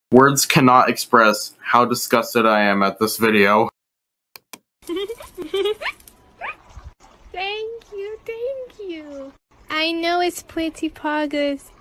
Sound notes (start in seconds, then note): 4.8 fake giggles